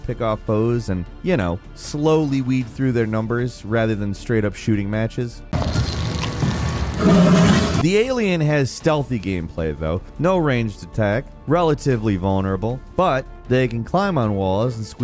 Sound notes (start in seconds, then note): 5.6 dramatic roar